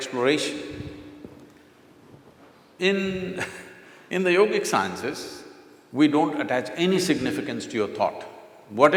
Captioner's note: laughs